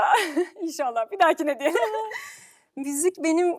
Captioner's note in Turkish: kahkaha